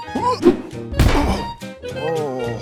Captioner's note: pebbles fall; grunts